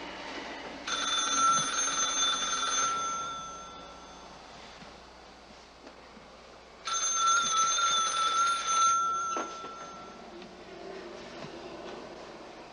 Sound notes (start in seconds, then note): 0.9 ringing; 6.9 ringing